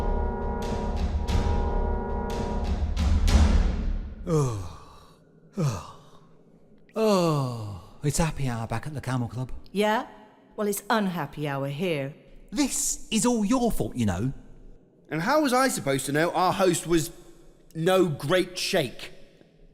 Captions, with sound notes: (Groans) Ohh, it's happy hour back at the Camel Club. Yeah? Well it's unhappy hour here. This is all your fault you know. And how was I supposed to know our host was... no great sheikh?